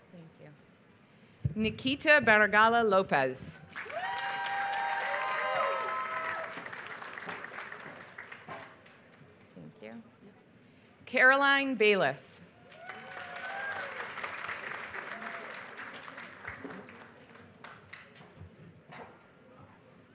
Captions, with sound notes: Thank you. Nikita Baregala Lopez. [APPLAUSE] Thank you. Caroline Bayless. [APPLAUSE]